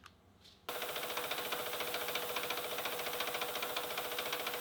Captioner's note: machine whirring